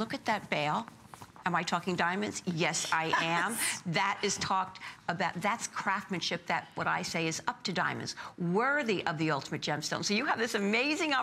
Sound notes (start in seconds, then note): 3.0 laughter